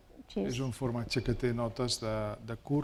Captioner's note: speaking spanish